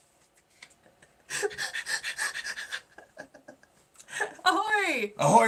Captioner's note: laughing